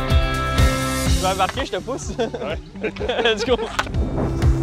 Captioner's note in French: rires